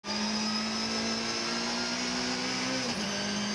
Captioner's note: car engine roars